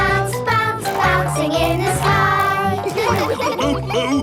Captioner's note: laughs